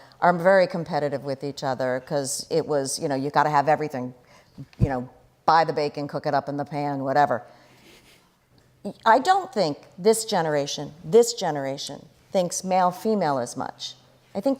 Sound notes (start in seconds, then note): none